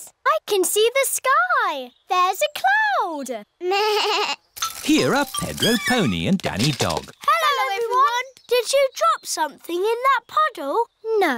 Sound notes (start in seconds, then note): 5.5 bleats